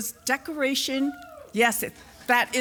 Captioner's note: applause